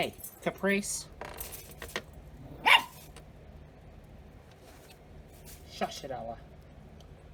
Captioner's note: Ella barks